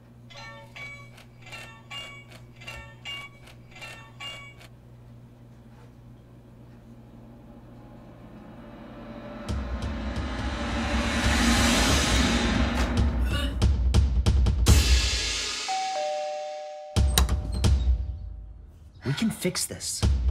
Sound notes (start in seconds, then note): 6.0 crescendo of cymbals; 12.4 fast paced, intense drum beat; 15.6 door bell ringing; 17.1 drum beat; 20.0 drum beat